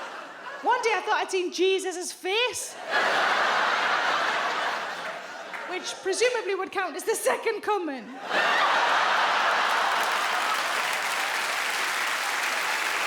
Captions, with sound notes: One day I thought I'd seen Jesus's face. [audience laughs] Which presumably would count as the second coming. [audience laughs, claps]